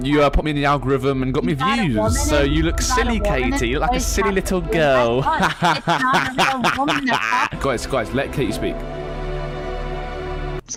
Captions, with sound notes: you, uh, put me in the algorithm, and got me views, so you look silly Katie, you look like a silly little girl. (laughs) Guys, Guys, let Katie speak.